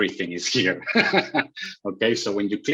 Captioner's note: laughs